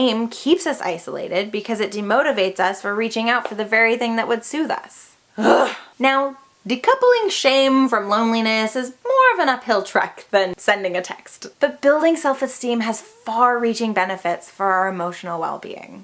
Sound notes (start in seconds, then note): 5.3 huff